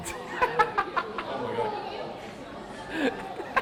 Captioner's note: laughter